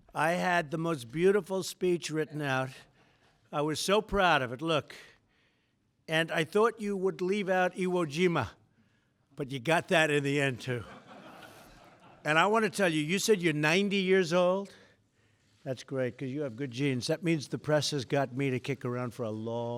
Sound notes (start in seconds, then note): 10.7 laughter